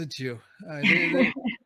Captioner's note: soft laughter